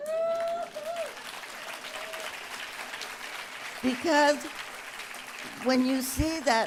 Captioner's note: applause